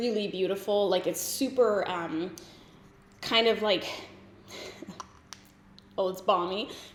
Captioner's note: giggles